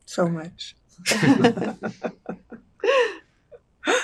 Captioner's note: laughing